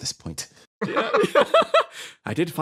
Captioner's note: laughs